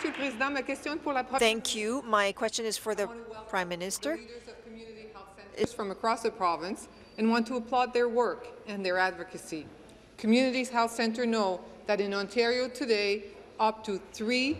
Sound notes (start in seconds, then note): 3.8 speaking in French